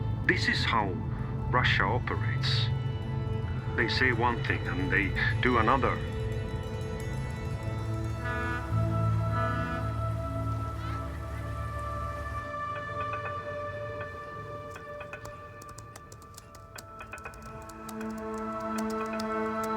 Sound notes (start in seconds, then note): 8.0 boat honking; 14.6 typing